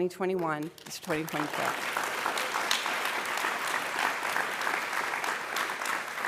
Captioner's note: applause